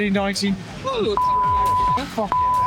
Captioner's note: beep